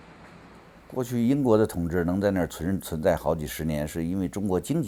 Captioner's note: speaks in Chinese